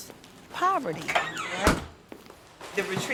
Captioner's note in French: grincement de la porte du congélateur